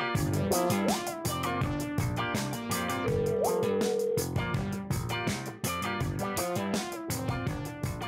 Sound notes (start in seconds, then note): 0.0 funky music; 3.0 phone ringing